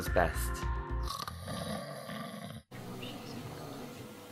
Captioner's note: snoring